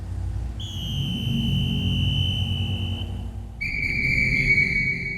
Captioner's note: dramatic music; whistle blowing repeatedly